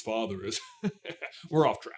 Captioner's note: chuckle